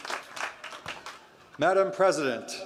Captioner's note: crowd cheering